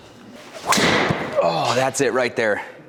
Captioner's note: golf club whacks